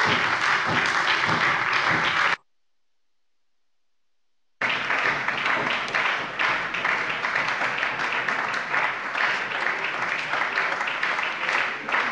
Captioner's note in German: Beifall bei der SPD